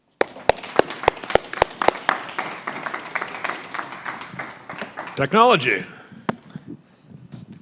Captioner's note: applause